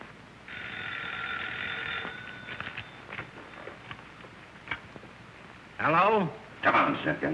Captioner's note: phone ringing